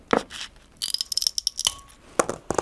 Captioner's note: rattling